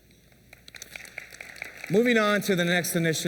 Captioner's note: applause